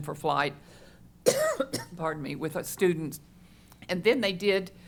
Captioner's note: coughs